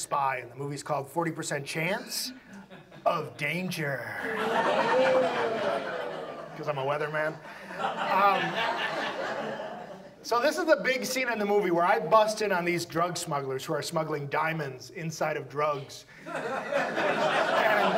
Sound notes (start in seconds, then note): 6.4 audience laughs; 17.8 audience laughs